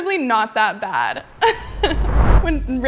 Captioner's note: laughs